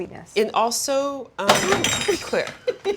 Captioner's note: bowl clattering; Claire giggling